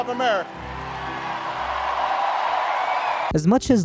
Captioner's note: audience cheering